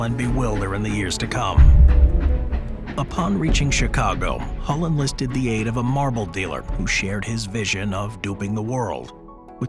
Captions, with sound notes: and bewilder in the years to come. (suspenseful music continues) (train chugs) Upon reaching Chicago, Hull enlisted the aid of a marble dealer who shared his vision of duping the world.